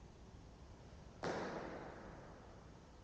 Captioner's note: echoey jump